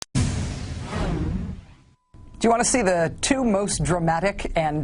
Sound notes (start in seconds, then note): 0.1 segue title sound effect